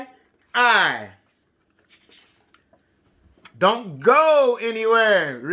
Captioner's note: none